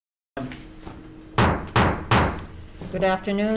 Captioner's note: gavel banging